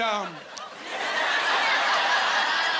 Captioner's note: laughing